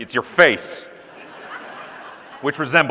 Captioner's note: audience laughing